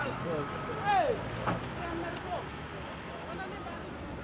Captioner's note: workers shouting